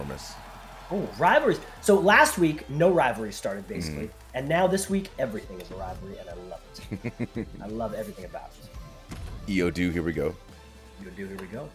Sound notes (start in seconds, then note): 6.7 laugh